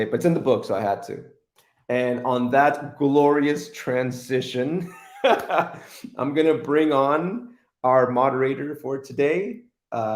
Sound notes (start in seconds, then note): 4.8 chuckles